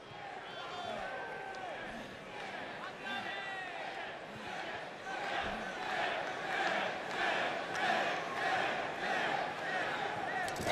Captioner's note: crowd cheering